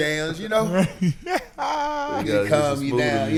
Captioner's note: laughing